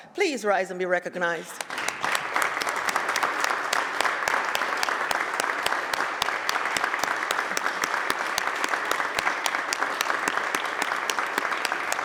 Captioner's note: applause